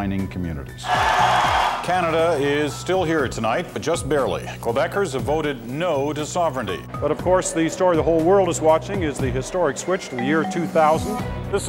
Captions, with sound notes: of the island's mining communities. [cheering] Canada is still here tonight, but just barely. Quebecers have voted "no" to sovereignty. But of course, the story the whole world is watching is the historic switch to the year 2000.